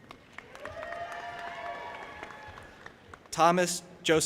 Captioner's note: audience applauding and cheering